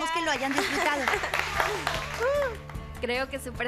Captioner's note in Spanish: aplausos